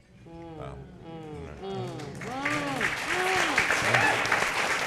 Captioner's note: audience clapping